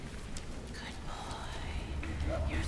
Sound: whispering

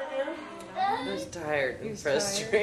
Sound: cries

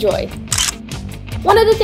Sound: camera shutter clicks

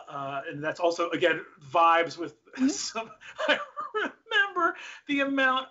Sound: laughs

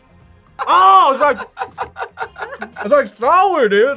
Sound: laughs

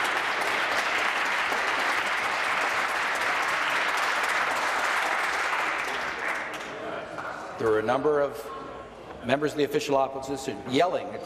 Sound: applause

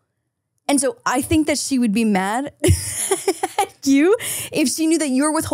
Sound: laughs

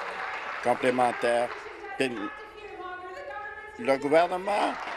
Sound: applause

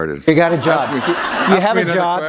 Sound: laughter

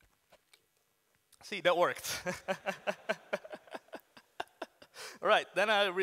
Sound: laughs

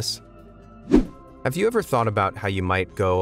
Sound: video whooshing

